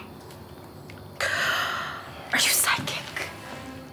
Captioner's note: gasps